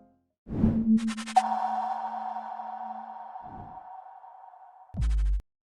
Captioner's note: gentle inspiring music fades; logo whooshes; logo echoes